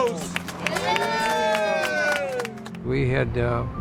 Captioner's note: people cheer